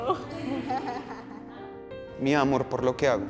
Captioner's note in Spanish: risas